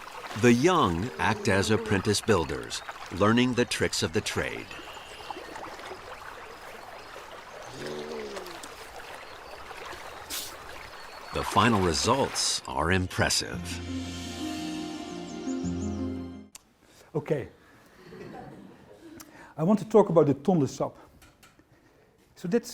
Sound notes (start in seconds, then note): 5.6 water Splashing; 18.0 laughter